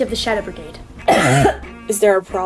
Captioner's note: Lamina spits drink